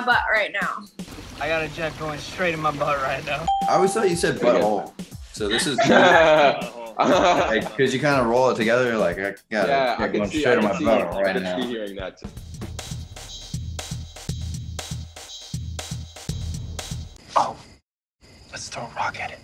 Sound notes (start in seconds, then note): 3.4 ding; 5.5 laughs; 12.5 upbeat interlude